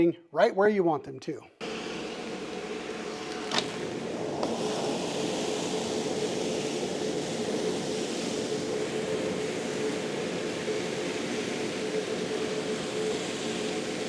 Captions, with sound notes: right where you want them to. [SOUNDS OF VACUUM]